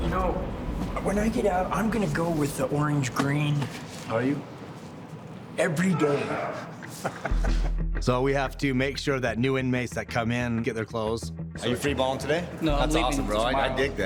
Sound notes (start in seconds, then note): 6.6 laughing